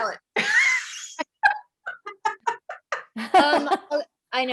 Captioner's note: laughter